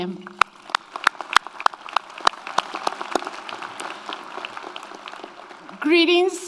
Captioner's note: audience applauds; audience cheers